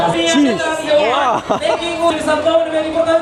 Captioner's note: laugh